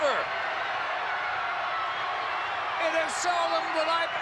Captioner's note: audience cheering